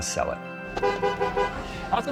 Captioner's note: van horn honks